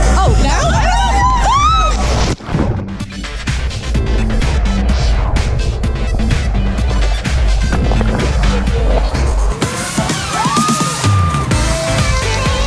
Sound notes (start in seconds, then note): 1.0 yelling; 2.9 upbeat music; 10.0 screaming